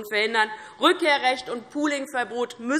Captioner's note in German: none